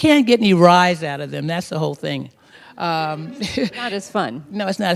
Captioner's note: laughter